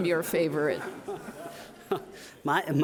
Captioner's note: audience laughing